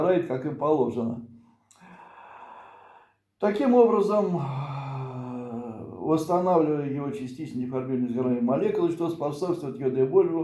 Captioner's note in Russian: вздыхает